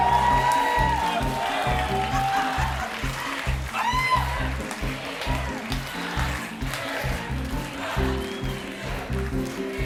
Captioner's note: cheers and applause; cheers and applause